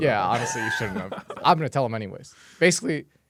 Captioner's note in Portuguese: risos